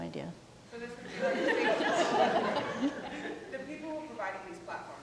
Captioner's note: people laughing